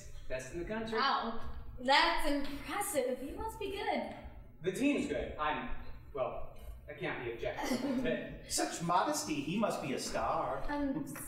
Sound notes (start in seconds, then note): 7.6 both laughing